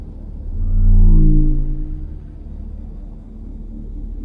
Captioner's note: spacecraft whirring